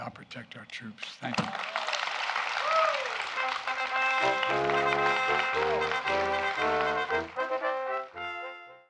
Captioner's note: applause